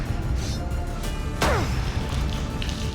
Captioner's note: grunt